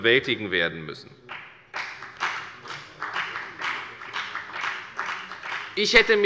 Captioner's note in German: Beifall bei der FDP